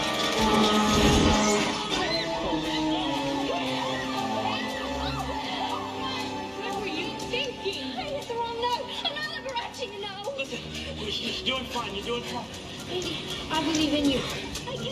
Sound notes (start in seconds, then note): 3.9 goonies screaming